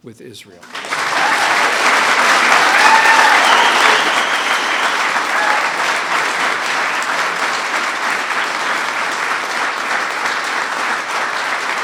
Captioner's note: applause